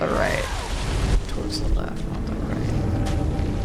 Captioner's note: quietly